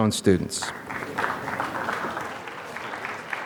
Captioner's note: applause